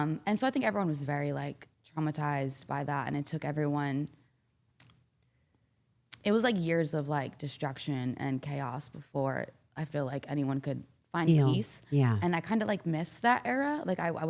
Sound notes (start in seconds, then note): none